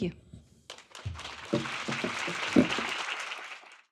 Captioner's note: audience applauding